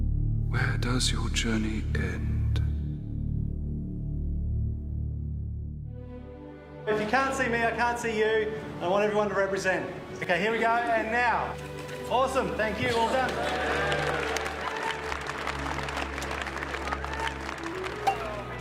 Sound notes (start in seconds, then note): 15.1 all clapping and cheering